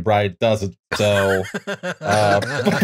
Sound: laughter

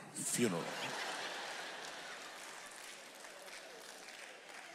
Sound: audience laughs

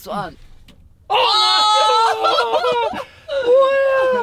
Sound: screaming

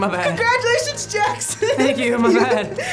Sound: laughs

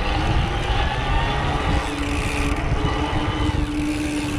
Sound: motor whirs

